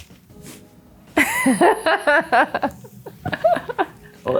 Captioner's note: laughs